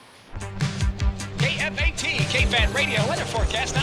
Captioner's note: electronic music; voiceover